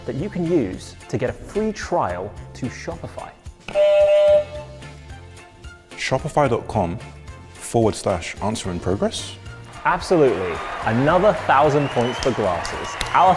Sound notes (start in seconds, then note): 3.7 buzzer buzzes